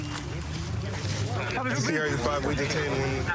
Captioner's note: excited chatter